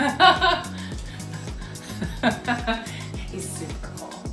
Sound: Katie laughs

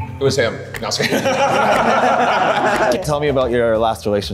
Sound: group laughing

